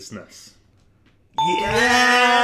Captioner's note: beep